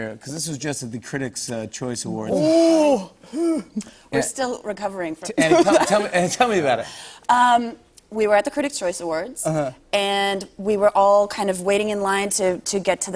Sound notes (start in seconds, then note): 5.4 laughter